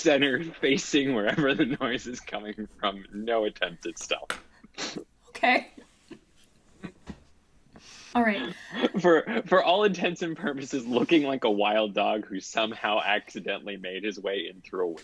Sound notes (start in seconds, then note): 1.7 laughs